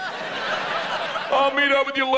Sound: audience laughs

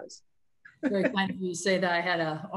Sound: laughs

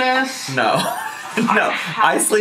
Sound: laughing

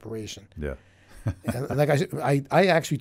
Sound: laughing

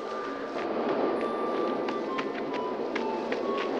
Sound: wind howling

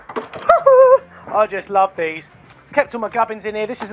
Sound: laughs

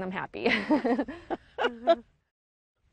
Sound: laughing

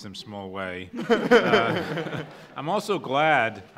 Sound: laughs

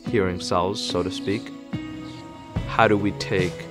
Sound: birds chirping

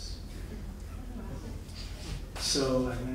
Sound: audience giggling

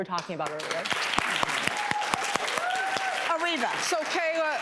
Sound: audience applause

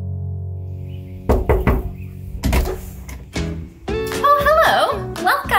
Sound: knock on door

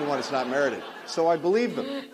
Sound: laughter

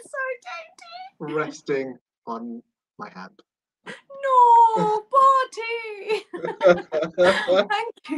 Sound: laughter

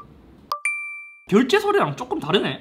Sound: iPhone's purchase alert tone

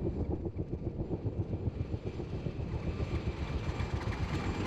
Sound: helicopter whirring

